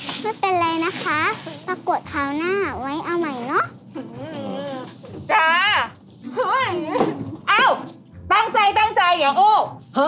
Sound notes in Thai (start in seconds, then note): 6.2 เสียงร้อง